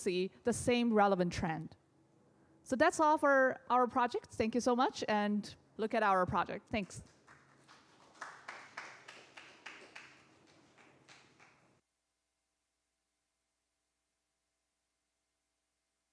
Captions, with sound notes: see the same relevant trend. So that's all for our project. Thank you so much, and look at our project. Thanks. [APPLAUSE]